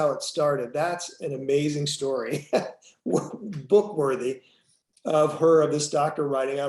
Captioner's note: laughs